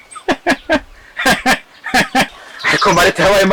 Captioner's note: Kamili laughung